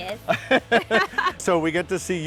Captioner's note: both laughing